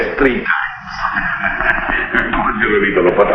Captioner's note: barber chuckles; speaking in foreign language